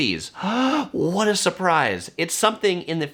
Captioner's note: gasps